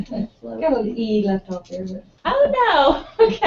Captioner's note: laugh